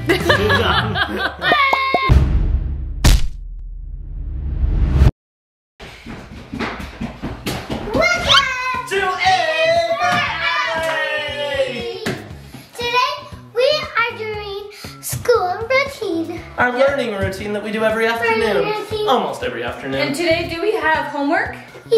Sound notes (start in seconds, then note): 0.0 laughing; 1.8 screaming; 2.0 logo booming; 3.0 logo splatting